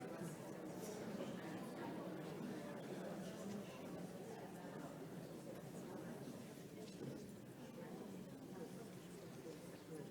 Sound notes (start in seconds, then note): 0.0 people chattering indistinctly